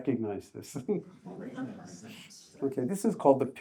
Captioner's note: audience chuckles